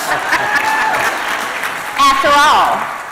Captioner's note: applause and cheering